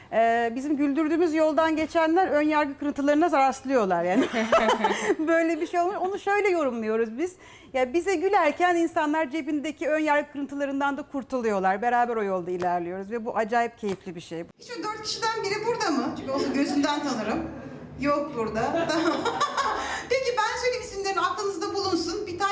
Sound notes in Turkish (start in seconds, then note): 18.6 Gülüşmeler